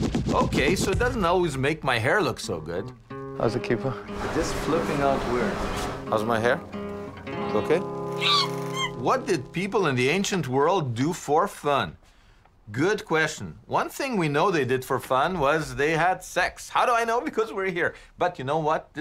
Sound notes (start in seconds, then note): 8.1 monkey screeching